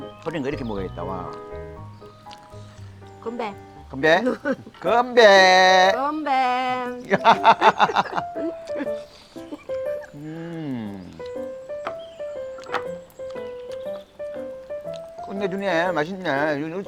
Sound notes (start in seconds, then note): 7.0 both laughing